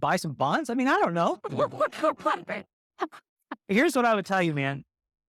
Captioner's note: laughter